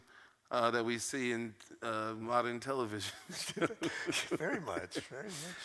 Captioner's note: laughs